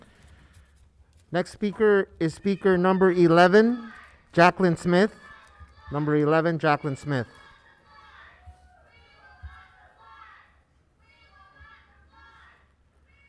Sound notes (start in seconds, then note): 7.9 protestors interjecting